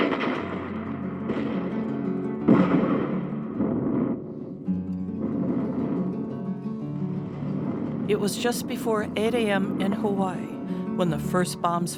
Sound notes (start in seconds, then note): 0.0 airplane engine humming; 0.0 bomb crashing